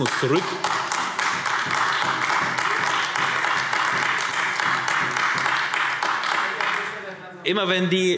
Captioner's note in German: Beifall : Jetzt macht er weiter!